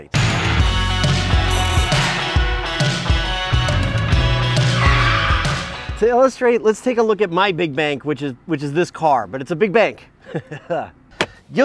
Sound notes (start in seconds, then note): 0.1 upbeat music; 4.5 tires squeal; 10.2 laughs